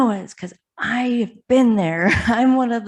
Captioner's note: chuckles